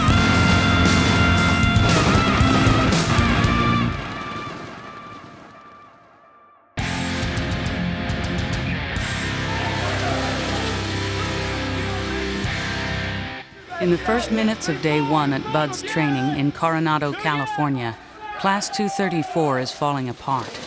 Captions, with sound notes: [explosion] [gunfire] [Instructor yelling] Do it again! In the first minutes of day one at BUD/s training in Coronado, California, In the first minutes of day one at BUD/s training in Coronado, California, Class 234 is falling apart